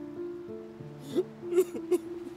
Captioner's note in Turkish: Ağlıyor